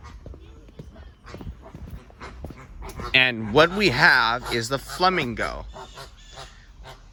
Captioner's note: flamingo quacking